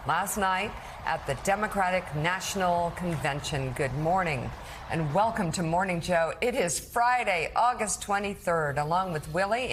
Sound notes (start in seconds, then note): 1.5 applause